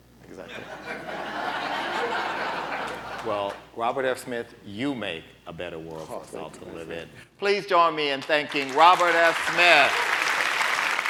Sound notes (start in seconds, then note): 0.4 laughter